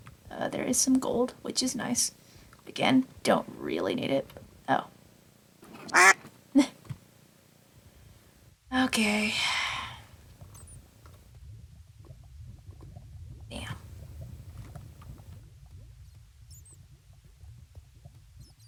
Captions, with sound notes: There is some gold, which is nice. Again, don't really need it- Oh. Sh- [duck quack] -t. [Laughs]. Okay [sigh]. Damn.